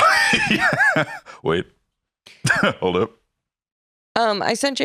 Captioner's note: laughs